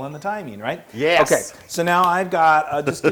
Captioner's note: laugh